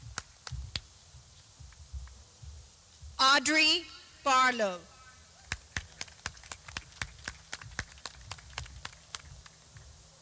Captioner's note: clapping